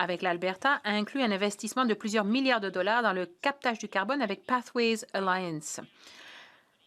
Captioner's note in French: voix de l'interprète